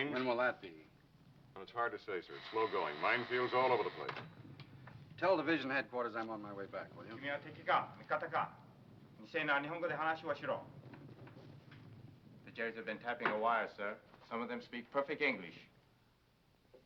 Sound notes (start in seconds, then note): 2.3 phone ringing; 7.4 speaking foreign language; 16.6 speaking foreign language